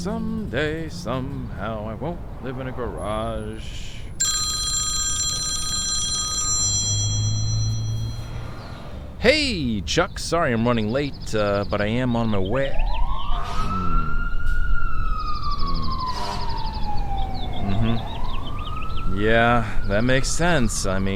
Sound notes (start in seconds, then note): 4.1 phone rings; 12.6 alarm wailing